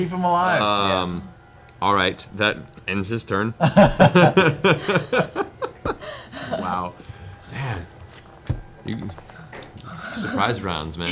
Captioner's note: laughs